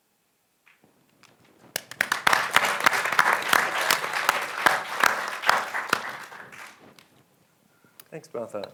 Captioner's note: applause